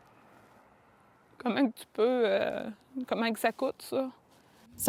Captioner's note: speaking french